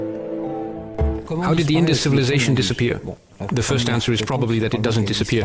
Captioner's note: French spoken audio